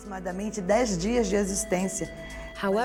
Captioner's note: speaking Portuguese